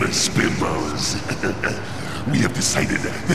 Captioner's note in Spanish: Se Ríe